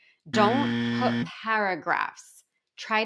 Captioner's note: buzzer buzzing